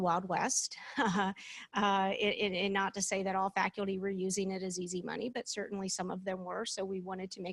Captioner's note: laughter